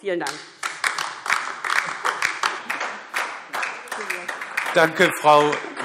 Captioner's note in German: Beifall DIE LINKE